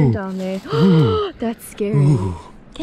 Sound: gasps

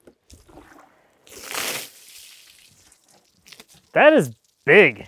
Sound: water splashing

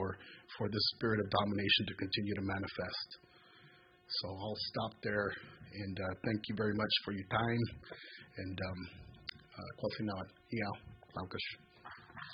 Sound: speaks native language

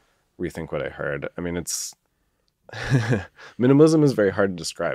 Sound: laughs

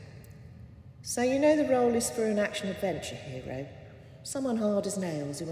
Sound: voice in distance

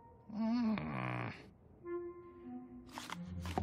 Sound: groaning

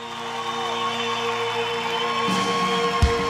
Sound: audience cheering

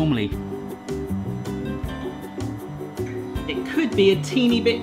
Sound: machine whirring

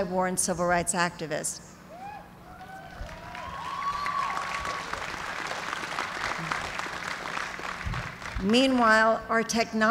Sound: cheers and applause

